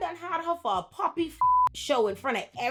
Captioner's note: beep